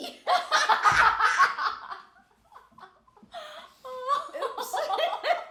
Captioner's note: laughing